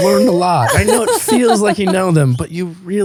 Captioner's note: laughing